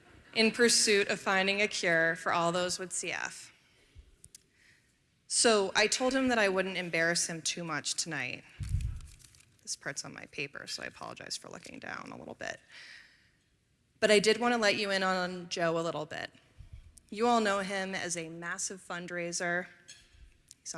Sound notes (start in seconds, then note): none